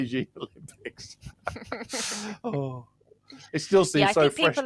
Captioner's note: laughter